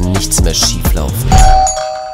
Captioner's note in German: Klingel